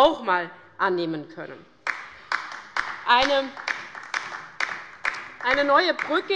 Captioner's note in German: Beifall bei der LINKEN